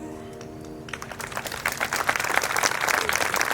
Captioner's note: audience applauds